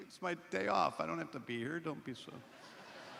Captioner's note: laughter